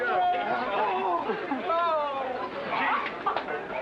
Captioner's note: indistinct clamoring